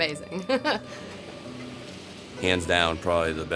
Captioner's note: laughter